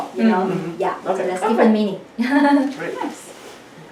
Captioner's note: laughs